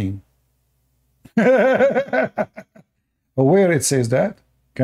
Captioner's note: Ketawa